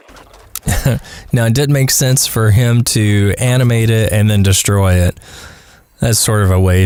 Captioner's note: haha